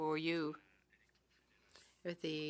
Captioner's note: speaking French